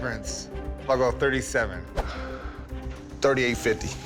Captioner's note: sighs